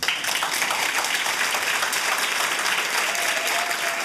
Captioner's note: applause